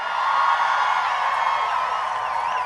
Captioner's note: applause